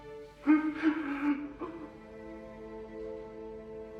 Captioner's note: sobbing